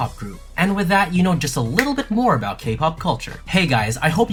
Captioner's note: snap